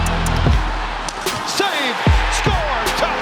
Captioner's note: crowd cheers